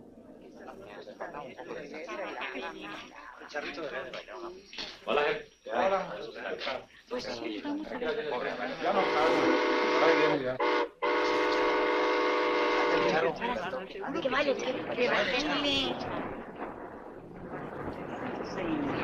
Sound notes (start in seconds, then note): 0.2 chatter in Spanish; 8.7 train whistles; 12.6 chatter in Spanish